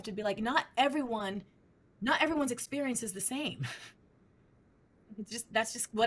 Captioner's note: chuckles